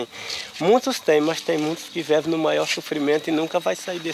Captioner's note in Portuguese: Sons de insetos do mato